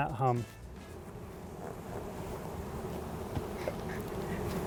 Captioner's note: bees humming; chuckling